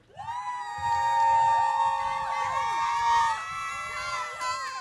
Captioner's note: audience cheering